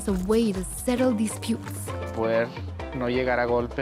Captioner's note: speaking Spanish